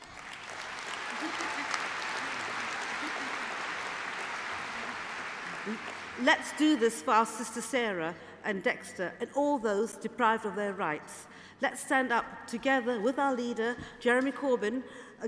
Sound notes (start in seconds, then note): 8.1 applause